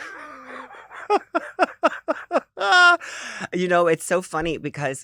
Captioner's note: laughs